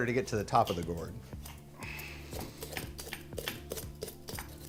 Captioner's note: peeler scrapping